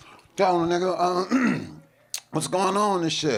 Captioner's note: coughs quickly